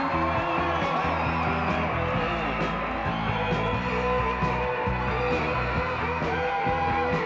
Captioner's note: upbeat rock music continues; crowd applauding; crowd cheering